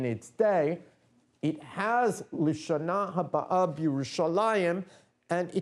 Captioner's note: non-english speech